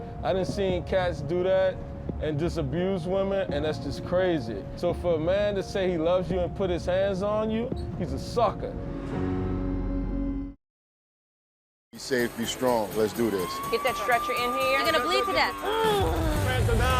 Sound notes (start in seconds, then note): 8.6 siren wailing